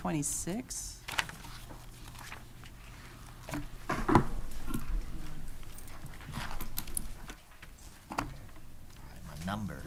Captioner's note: pages rustling and objects clattering